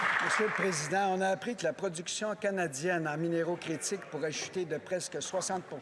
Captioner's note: some Applause